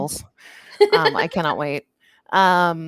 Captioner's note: giggles